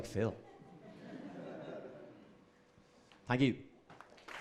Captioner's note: audience laughs